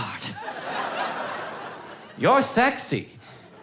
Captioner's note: audience laughing